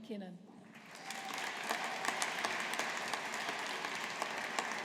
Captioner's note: audience applauding